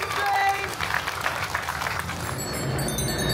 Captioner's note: guests cheering and applauding